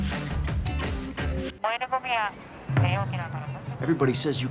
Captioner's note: woman speaking Japanese